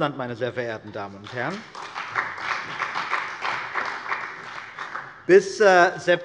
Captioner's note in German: Beifall bei der CDU und dem BÜNDNIS 90/DIE GRÜNEN